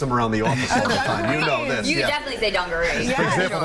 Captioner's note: laughter